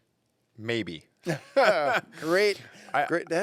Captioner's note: laughs